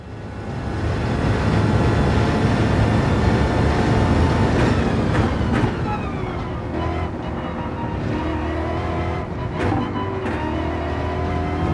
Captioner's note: engines revving, cars noises